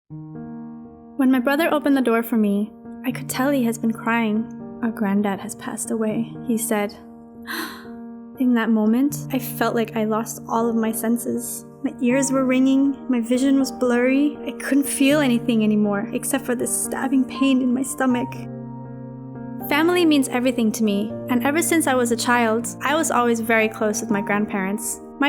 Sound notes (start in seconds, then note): 7.5 gasp